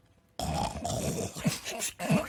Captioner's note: growling, snuffling